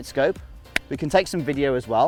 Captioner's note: claps hands